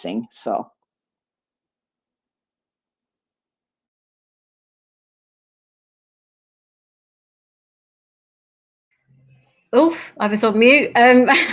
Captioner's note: loss of audio